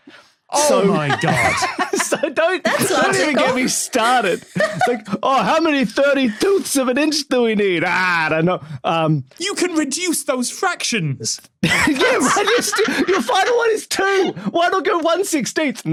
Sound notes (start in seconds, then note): 1.2 cackles; 11.6 group laughing